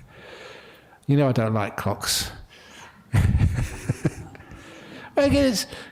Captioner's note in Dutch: lachen